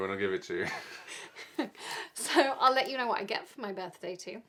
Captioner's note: both laughing